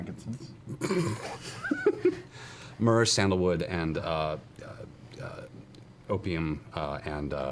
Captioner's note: snorts and laughs